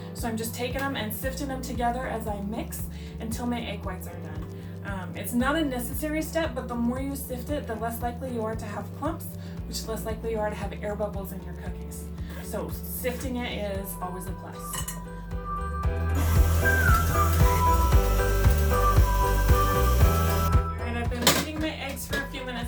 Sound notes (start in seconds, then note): 15.9 soft gentle music; 16.1 dough mixer whirring